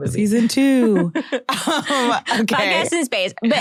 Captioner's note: chuckles